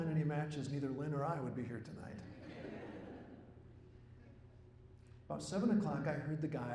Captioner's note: laughter